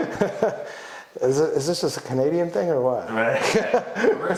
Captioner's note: laughs